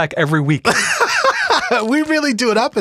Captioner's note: laughs loudly